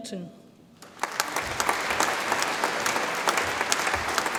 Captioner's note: audience applauds